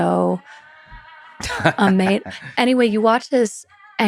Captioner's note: Lex laughs